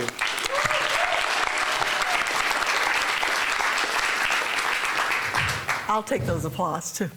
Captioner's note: applause